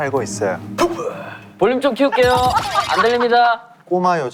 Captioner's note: laughing out loud